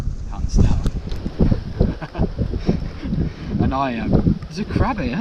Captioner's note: both chuckling